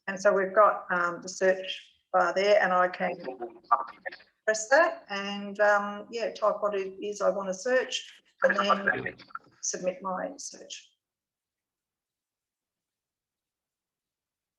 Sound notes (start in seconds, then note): 3.1 JAWS speaks quickly